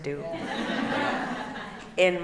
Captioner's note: laughing